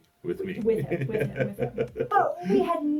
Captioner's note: laughs